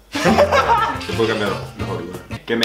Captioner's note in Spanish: Risas